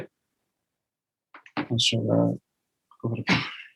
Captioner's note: laughs